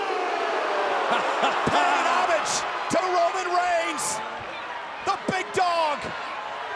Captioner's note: laugh